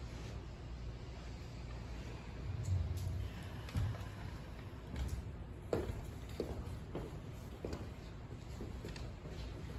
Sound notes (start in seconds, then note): 0.1 inhale; 3.0 exhale